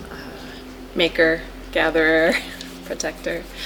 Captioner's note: laughs